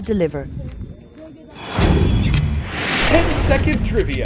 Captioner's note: voice-over